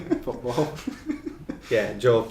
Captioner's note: laughing